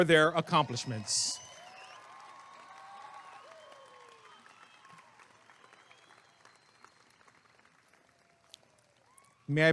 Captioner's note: applause and cheering